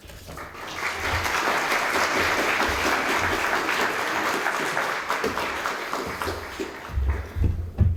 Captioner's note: applause